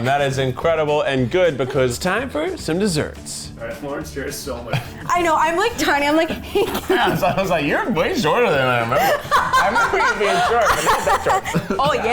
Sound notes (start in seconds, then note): 5.8 laughs